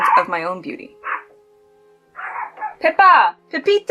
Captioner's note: Pippa barking